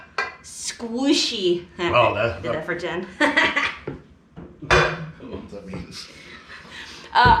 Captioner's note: laughing